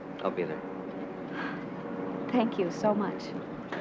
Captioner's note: sighs